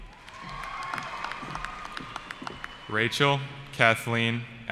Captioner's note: cheering